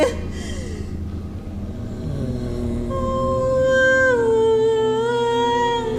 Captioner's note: all chanting